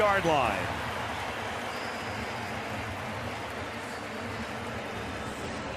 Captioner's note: pa announcement